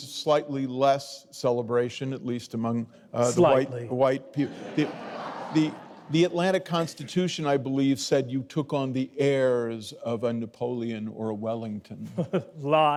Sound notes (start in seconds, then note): 4.4 audience laughing